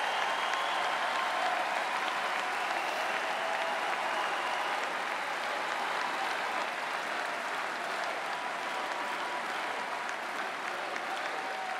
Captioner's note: applause